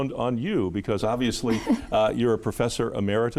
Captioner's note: chuckling